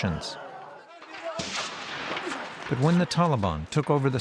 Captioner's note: explosion